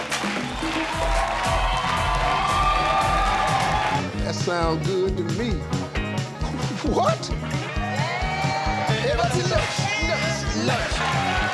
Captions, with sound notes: (audience cheering) That sound good to me! W-what? (audience cheering)